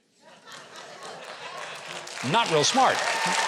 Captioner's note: laughter; applause